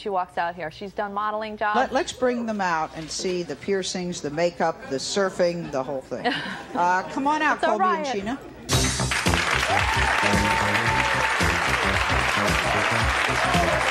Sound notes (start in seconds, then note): 8.6 upbeat music; 9.0 audience cheers